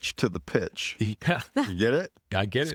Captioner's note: laughing